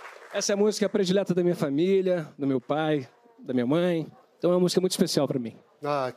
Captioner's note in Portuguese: aplausos